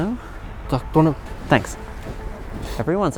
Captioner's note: person speaking in foreign language